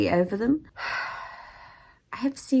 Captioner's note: sighs